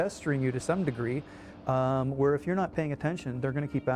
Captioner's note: voiceover